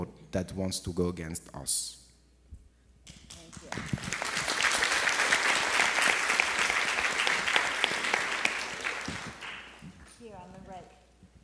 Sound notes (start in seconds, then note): 3.6 audience applauds